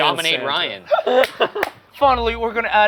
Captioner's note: laughing; clapping